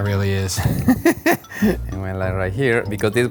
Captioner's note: laughs